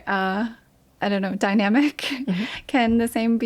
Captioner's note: chuckles